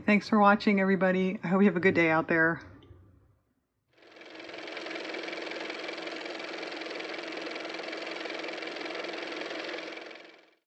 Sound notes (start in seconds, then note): 4.1 car motor